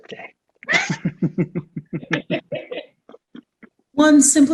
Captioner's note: all laugh